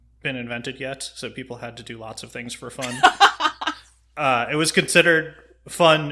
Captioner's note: laughs